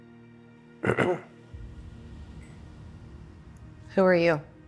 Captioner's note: clears throat